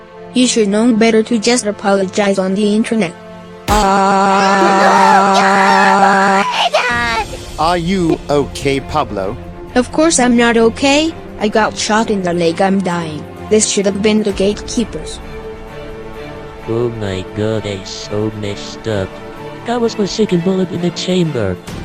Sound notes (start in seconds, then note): 3.6 gunshot; 3.6 BFDI Scream sound; 3.7 Pablo Screaming